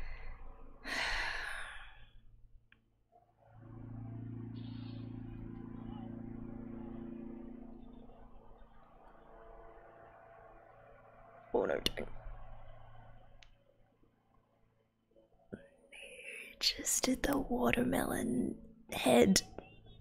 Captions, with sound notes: [sighs] Oh no, don't - ! He just did the watermelon... head.